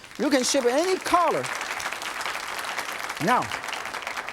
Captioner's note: audience applauds